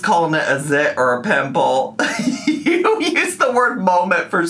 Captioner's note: laughs